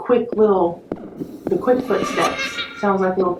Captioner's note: simulated footsteps/child laughing